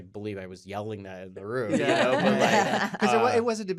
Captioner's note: all laughing